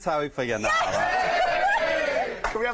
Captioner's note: cheering